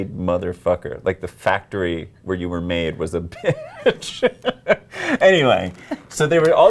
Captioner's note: laughs